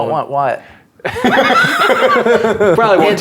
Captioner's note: players laughing